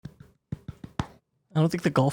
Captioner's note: clapping